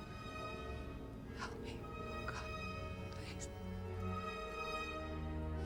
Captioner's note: whispering